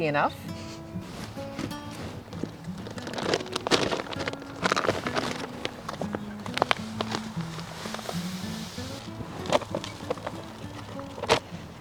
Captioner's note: bag opening, dirt falling; sounds of seeds spreading